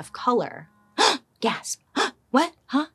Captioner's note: gasps